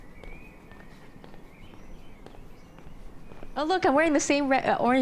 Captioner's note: birds singing